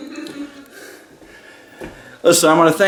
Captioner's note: laughing